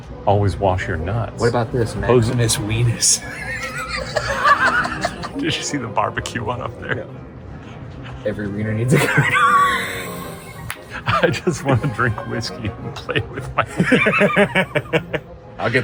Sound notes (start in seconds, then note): 3.1 laughs; 8.9 both laugh; 13.0 laughs